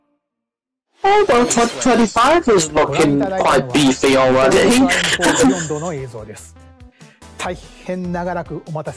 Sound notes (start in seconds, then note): 4.5 chuckles